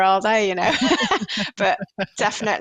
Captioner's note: laughter